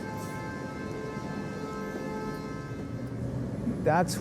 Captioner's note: car horn honking